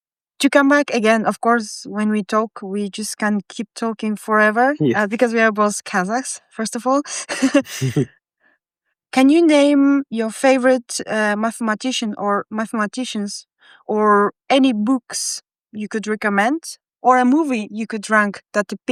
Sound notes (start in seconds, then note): 7.2 laughing